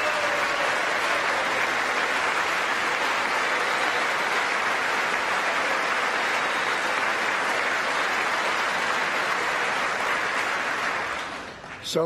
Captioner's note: applause